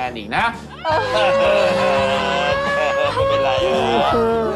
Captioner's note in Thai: ร้องไห้